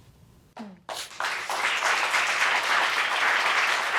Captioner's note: audience applauding